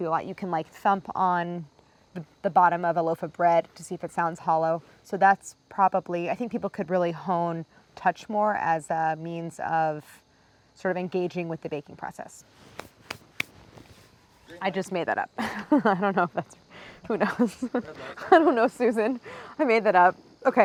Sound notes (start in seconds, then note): 15.3 Claire laughs